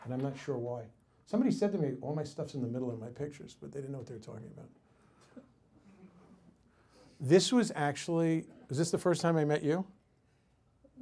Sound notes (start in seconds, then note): 5.3 audience giggles